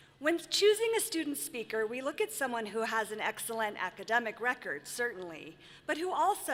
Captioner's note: none